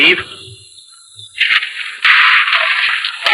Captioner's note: guns roaring